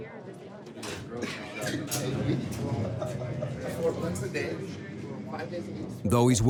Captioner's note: indistinct conversations, laughter